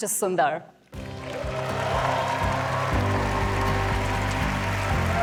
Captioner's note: applause